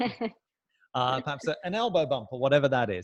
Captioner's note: laughing